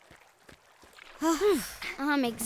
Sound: sighing

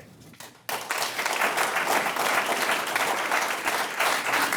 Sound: audience clapping

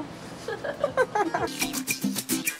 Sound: girls laughing; upbeat tropical music

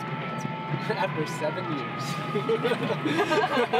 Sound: laughing; laughs

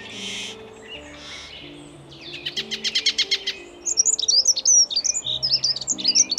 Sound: birds singing loudly

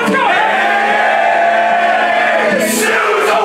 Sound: shouting; singing

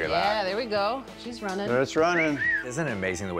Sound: whistles

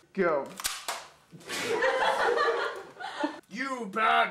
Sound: laughter

